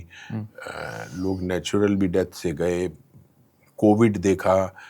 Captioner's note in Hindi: नाक से की जाने वाली आवाज़